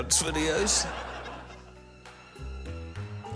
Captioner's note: laughter